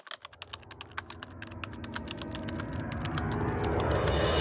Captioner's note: typing sounds